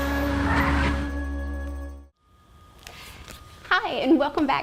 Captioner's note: tires screeching